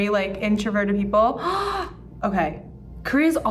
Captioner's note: gasping